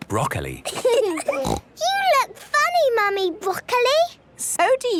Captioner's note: laughing, snort